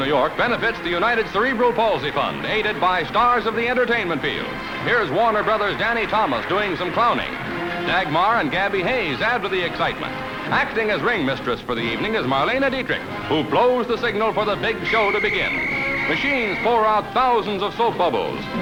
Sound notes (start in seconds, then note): 14.7 whistle